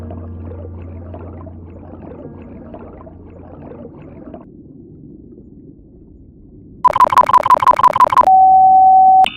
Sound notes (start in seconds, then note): 6.8 blooooooooooooooop; 6.8 rapid beeping